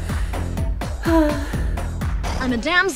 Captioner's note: dreamy sigh